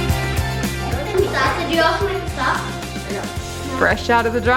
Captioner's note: upbeat music; child mumbling